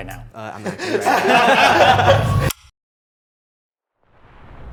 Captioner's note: men burst out laughing